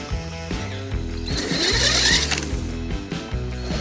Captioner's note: drill clatter